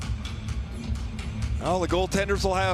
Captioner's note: none